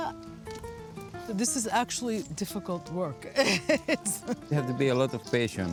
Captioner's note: laughs